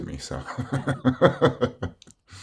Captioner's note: laughs